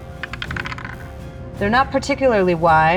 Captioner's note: dice clanks